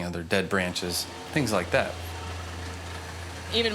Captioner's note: machinery humming